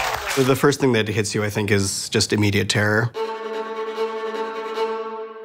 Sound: applause

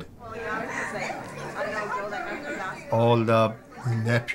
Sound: indistinct chatter

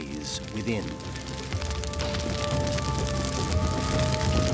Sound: fire crackling

